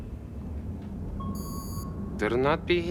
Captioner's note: alarm